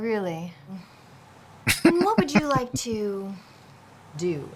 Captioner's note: laughing